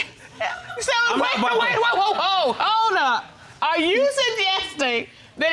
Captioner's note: stuttering